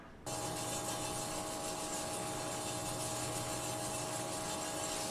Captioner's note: vibrating sound